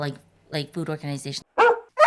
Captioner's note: bark